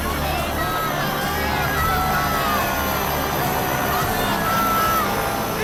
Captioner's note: group speaking in foreign language